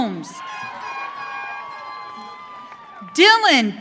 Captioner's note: audience cheering